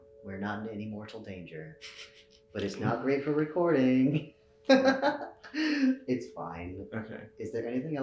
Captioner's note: laughs